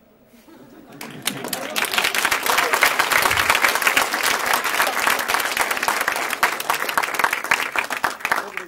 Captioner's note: applause